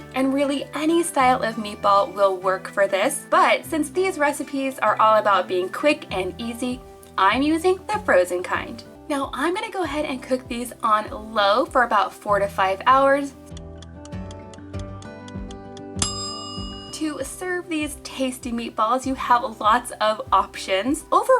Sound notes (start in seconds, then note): 13.4 ticking; 15.9 bell dinging